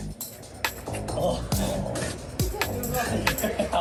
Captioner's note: laughs